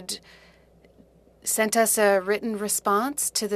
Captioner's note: speaking French